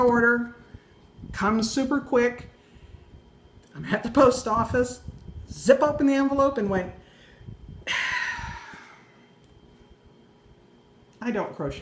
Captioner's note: sigh